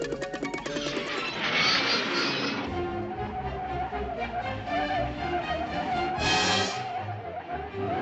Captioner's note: dash and skid